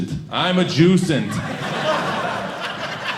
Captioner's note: audience laughing